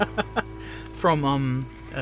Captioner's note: laughs